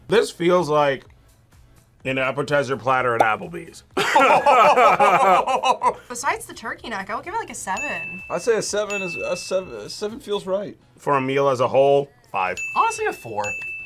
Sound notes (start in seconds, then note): 4.0 both laugh